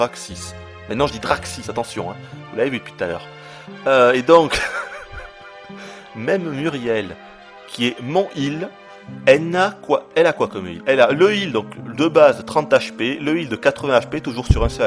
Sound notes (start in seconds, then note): 4.4 laughter